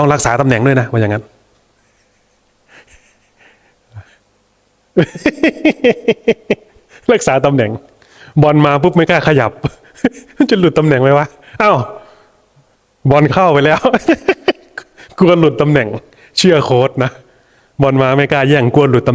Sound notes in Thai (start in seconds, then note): 5.0 เสียงหัวเราะ